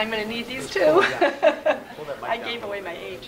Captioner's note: laughs